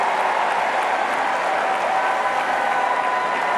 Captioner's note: cheering and applause